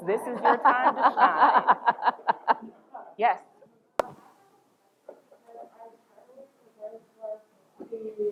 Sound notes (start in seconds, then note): 0.2 laughter